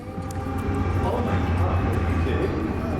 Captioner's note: train engine roaring